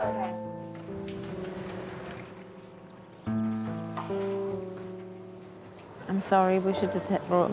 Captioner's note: somber music; doors whooshing